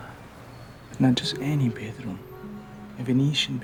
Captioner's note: in italian accent